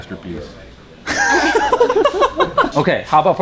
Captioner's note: laughs